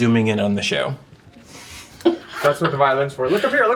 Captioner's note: laughing